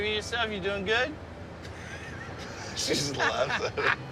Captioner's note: laughs